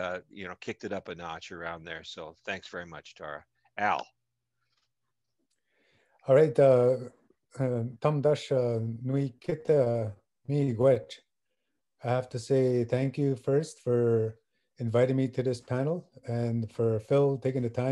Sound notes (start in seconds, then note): 7.9 speaking Ojibwe